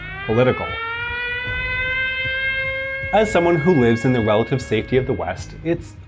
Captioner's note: sirens go off